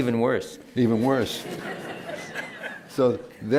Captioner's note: laughter